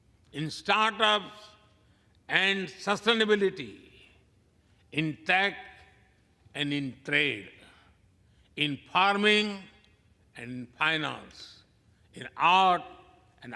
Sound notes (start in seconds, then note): none